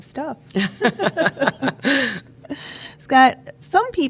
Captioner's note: laughing